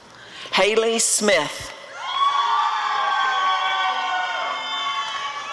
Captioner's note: applause and cheering